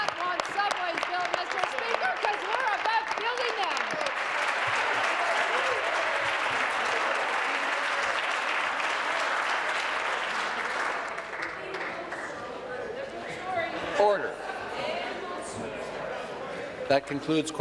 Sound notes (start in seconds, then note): 2.7 applause; 10.2 applause